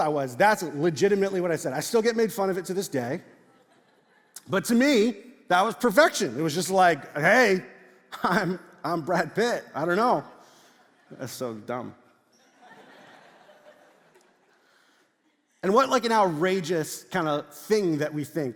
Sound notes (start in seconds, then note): 12.4 congregation laughs